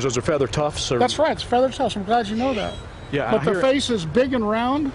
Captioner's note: owl calling